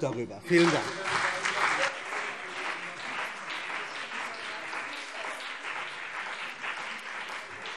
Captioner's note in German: Beifall CDU und BÜNDNIS 90/DIE GRÜNEN - Zurufe AfD